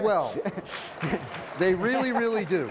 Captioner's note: audience applauds